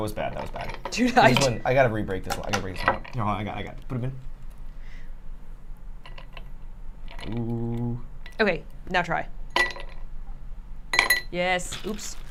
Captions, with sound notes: - Oh, that was bad, that was bad. I gotta rebreak this one. I can break this one up. Here, hold on, I got it, I got it. Put him in. Ooo. - Okay, now try. (ice clinking) Yes.